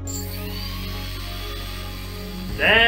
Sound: motor spinning noise

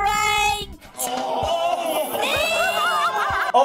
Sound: laughing

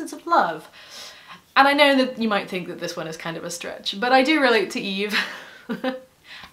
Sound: chuckle

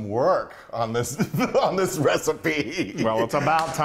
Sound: laughing

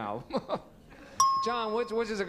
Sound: ding

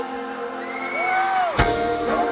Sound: other fans screaming

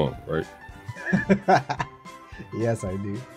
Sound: laughs

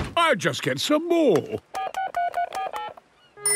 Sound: dial tone; phone rings

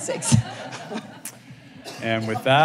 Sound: laughter

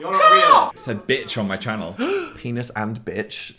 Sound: squawking; gasps

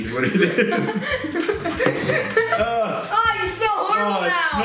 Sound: laughs

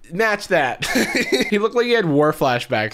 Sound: chuckles

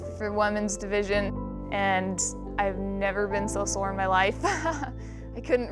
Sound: laughs

